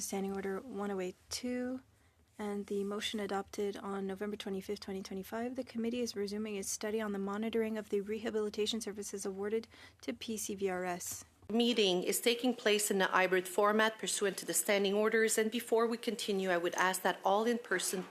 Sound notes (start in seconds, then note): 3.7 speaking French